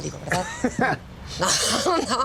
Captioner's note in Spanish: Risas